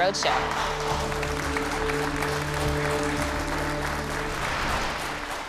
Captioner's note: applause